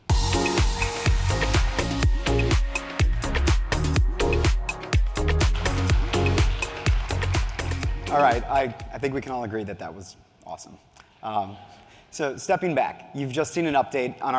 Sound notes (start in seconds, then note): 0.2 upbeat music; 5.4 audience applauds